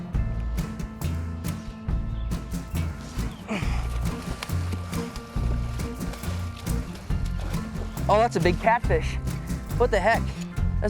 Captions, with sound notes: (grunts) Oh, that's a big catfish. What the heck?